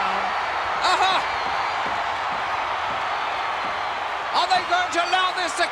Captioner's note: applause